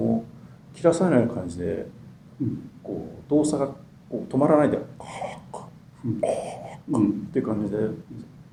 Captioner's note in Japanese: 息吹